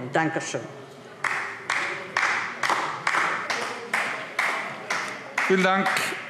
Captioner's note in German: Beifall DIE LINKE